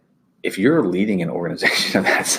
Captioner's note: chuckles